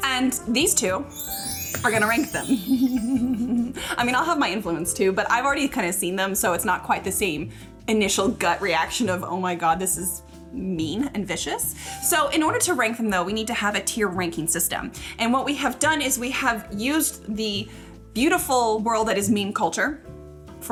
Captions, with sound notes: And these two, (chimes jingling) are gonna rank them. (laughing) I mean, I'll have my influence too, but I've already kind of seen them, so it's not quite the same initial gut reaction of oh my God, this is mean and vicious. So, in order to rank them though, we need to have a tier ranking system. And what we have done is we have used the beautiful world that is meme culture